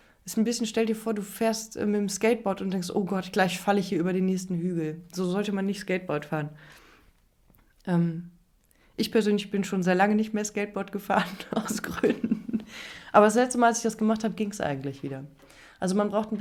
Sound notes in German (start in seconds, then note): 11.2 gelächter